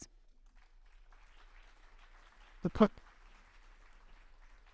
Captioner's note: audience applauding